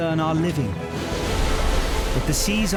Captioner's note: waves crashing